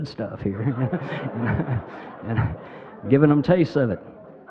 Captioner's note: crowd laughing